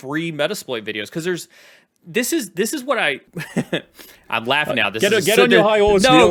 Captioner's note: laughs